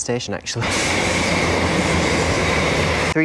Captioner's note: loud trains erkhbvkrjhve